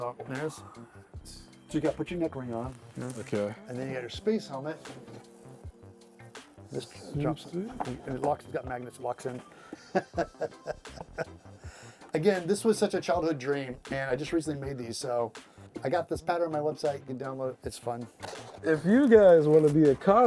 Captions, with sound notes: So, there's, do you guys put your neck ring on? - Okay. - Put your space helmet. This drops, and it locks, it's got magnets, it locks in. (laughing) Again, this was such a childhood dream, and I just recently made these, so I got this pattern on my website, you can download it, it's fun. - If you guys wanna be a